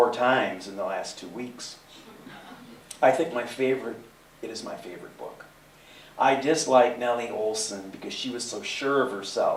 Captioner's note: laughter